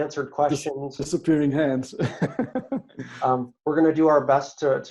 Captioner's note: laughs